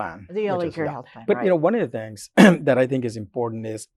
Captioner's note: coughs